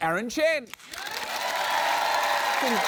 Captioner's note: cheering, applause